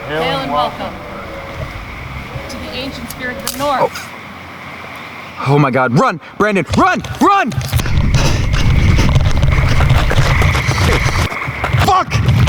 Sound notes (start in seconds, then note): 3.4 branch cracking; 7.8 heavy breathing